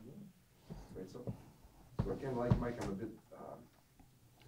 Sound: voiceover

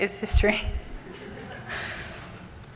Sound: laughter from the audience

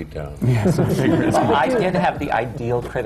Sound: laughter

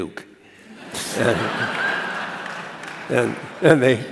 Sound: laughter

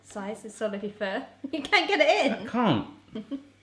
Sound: laughs

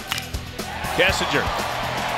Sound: ball hitting bat

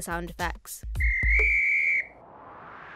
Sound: whistle

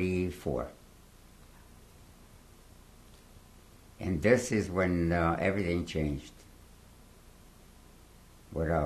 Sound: pauses for 3 seconds

